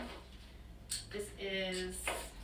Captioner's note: knock